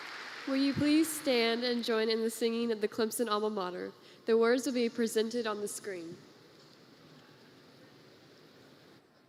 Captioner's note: applause